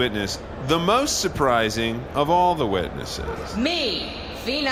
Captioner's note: echoing across the courtroom